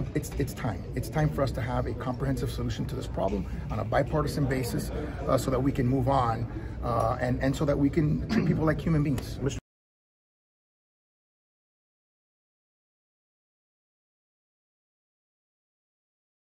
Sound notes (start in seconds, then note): 8.2 cough